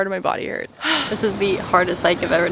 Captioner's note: exhales